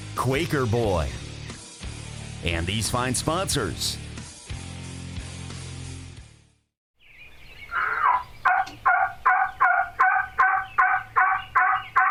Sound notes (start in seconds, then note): 7.0 birds chirping; 9.4 bird squawks